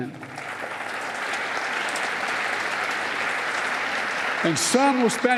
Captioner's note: applause